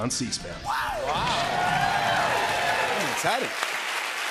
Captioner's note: cheers and applause